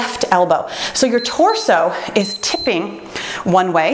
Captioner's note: timer beeps